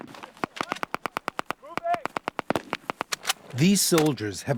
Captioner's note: gunshots; machine gunfire